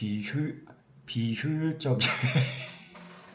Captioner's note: laughs